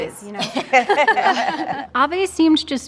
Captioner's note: laughing